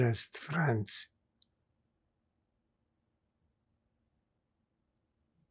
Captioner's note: pauses 8 seconds